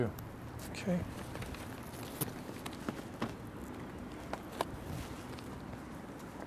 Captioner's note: rustling